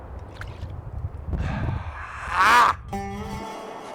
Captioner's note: masculine growl shout